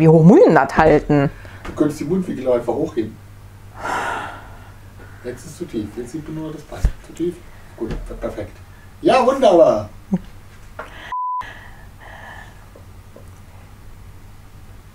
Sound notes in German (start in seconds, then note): 1.5 Aus dem Off; 3.7 schnaubt; 4.7 Aus dem Off; 11.7 lacht leise